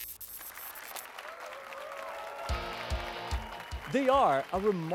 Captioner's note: applause and cheers